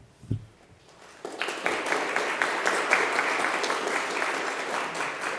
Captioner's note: audience clapping